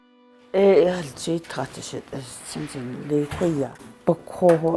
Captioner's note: speaks foreign